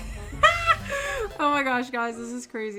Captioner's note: light music; laughs